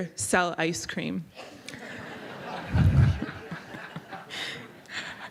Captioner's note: laughter